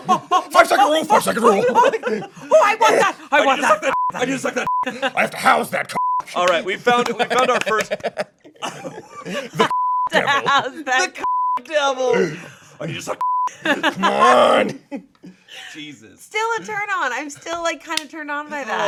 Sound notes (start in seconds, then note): 3.9 beep; 5.9 beep; 11.2 beep; 13.2 beep; 13.5 laughing